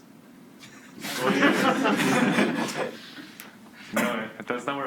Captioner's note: students laugh